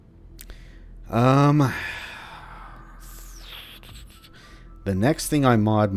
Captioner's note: thinking sounds